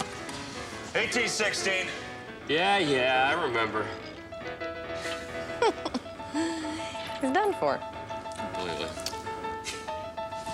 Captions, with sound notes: - 18-16. - Yeah, yeah, I remember. - (laughing) He's done for. - Clearly.